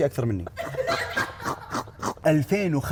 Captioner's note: all laughing